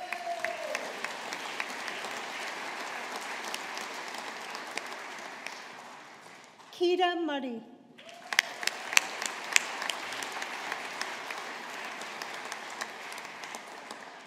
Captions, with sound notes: (AUDIENCE APPLAUDING) Ciara Murray. (AUDIENCE APPLAUDING)